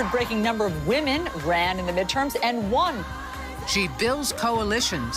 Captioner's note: cheering and applauding